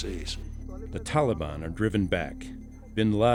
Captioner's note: voiceover